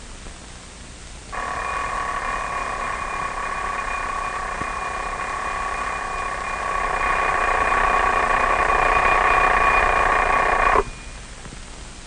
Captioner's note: alarm clock ringing